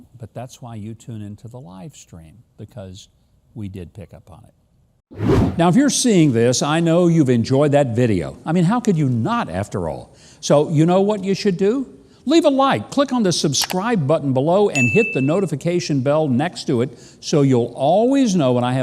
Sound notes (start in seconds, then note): 5.1 wind whooshing; 14.8 bell dinging